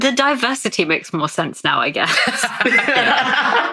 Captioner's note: laughing